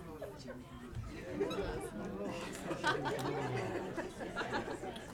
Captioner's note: people chattering